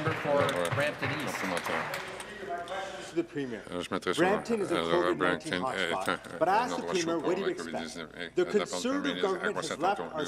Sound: some Applause

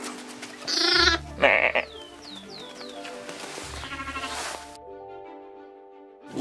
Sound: lamb and photographer bleating

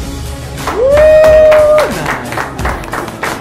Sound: applause and scream

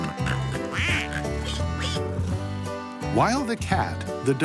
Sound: farm animals snort and quack

